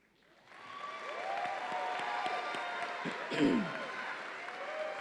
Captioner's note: audience applauds and cheers